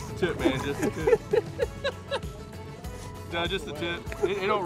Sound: laughs

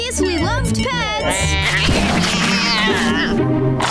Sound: yowling

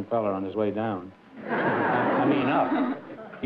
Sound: laughter

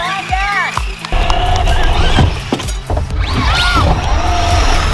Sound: cars whirring

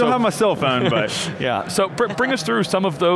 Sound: laughs

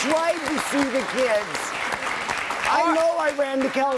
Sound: applause

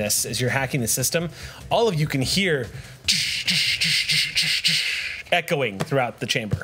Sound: mouth sound affects

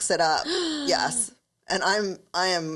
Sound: gasps

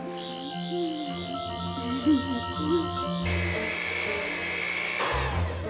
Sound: buzzing noise

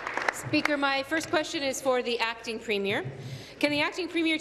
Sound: applause

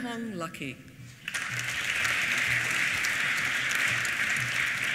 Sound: applause

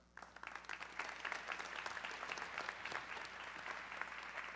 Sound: audience clapping

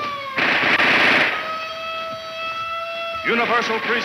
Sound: sirens wailing; gun firing

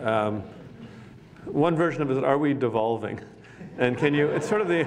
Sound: laughter

